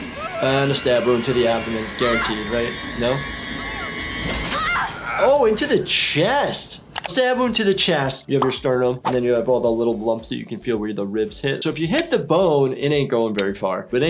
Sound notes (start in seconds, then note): 4.4 screaming; 4.4 squelches